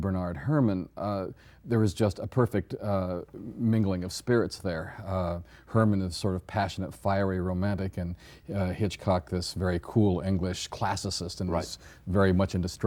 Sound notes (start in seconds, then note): none